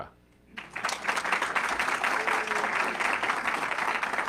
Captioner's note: audience clapping